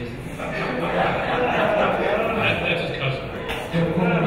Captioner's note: audience laughing